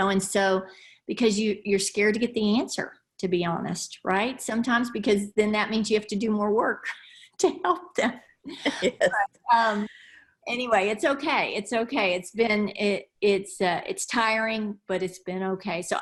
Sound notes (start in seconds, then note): 8.5 laughs